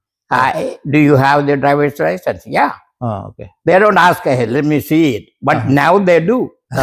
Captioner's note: Laughing